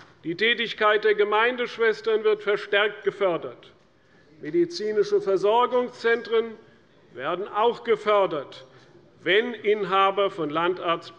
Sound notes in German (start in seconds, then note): none